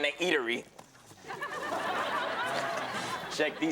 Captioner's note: audience laughing